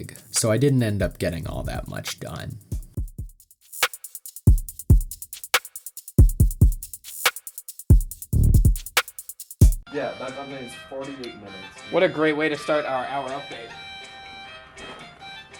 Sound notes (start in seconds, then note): 10.0 nokia aribic ringtone and unintelligible conversation